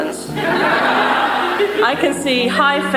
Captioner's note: congregation laughs